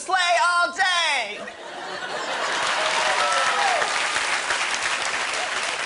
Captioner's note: laughter and applause